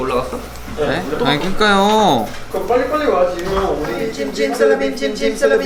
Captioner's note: exasperated